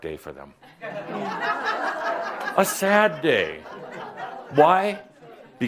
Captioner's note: laughter